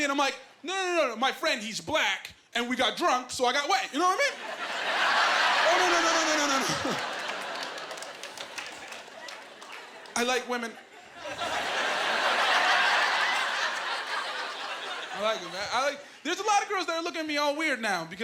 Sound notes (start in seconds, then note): 4.3 laughing